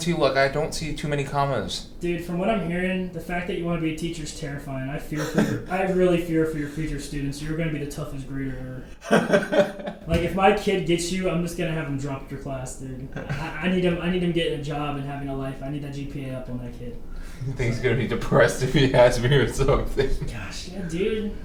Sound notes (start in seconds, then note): 5.1 Thomas laughs; 9.0 Thomas laughs; 20.9 laughs